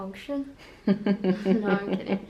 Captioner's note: laughs